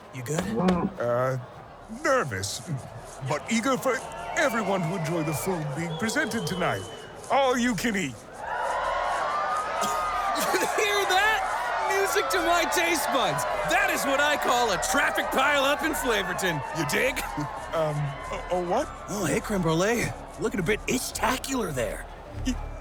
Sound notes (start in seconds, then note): 0.3 nervous moo, scratching self; 8.2 the crowd cheers, not helping the nervous chef; 17.4 more nervous scratching